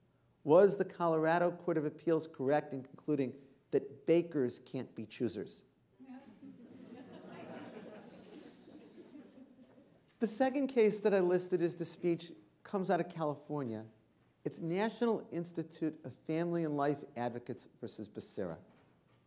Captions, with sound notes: SHOP AND COLORADO CIVIL RIGHTS COMMISSION THAT THE SUPREME COURT LEFT UNRESOLVED THE KEY QUESTION, WAS THE COLORADO COURT OF APPEALS CORRECT IN CONCLUDING THAT BAKERS CAN'T BE CHOOSEERS. [ Laughter ] SECOND CASE THAT I LISTED COMES OUT OF CALIFORNIA, IT'S NATIONAL